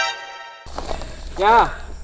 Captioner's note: shouts from afar